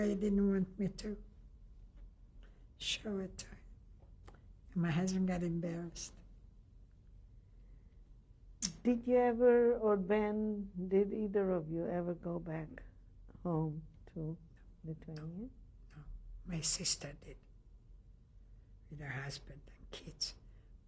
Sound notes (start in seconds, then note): 5.9 pauses for 3 seconds